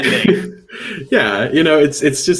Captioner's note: laughing